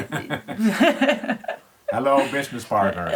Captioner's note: both laugh